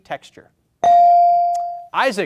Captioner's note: buzzer chimes